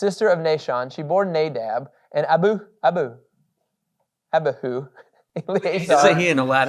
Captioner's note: chuckles